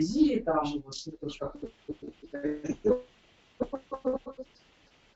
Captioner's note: interference